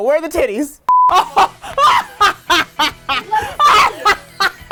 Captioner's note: evil laughter